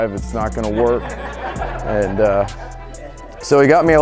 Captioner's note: audience laughing